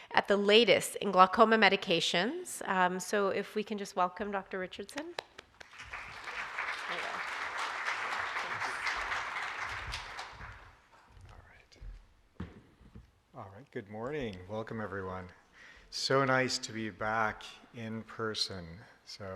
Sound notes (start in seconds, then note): 4.9 clapping; 4.9 audience clapping